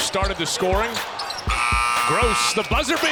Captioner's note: buzzer_